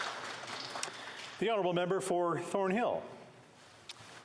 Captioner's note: applause